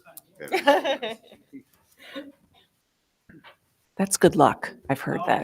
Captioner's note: board member laughing